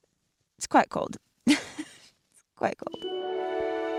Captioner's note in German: lacht